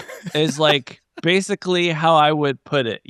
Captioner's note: laughing